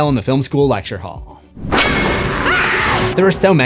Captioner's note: screams